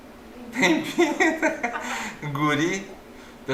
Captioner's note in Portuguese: risos